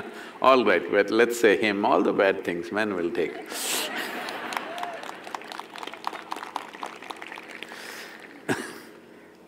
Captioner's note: cheering/Applause